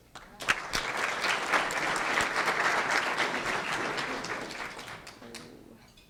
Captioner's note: applause